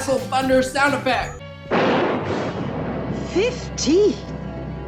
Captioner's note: thunder sound effect